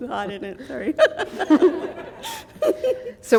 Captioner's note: laughter